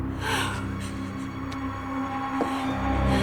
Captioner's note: gasps